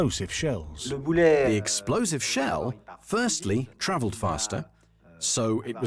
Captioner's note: voiceover